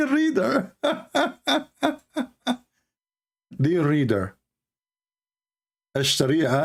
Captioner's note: Ketawa